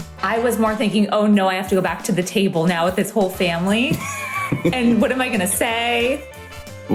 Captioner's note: laughs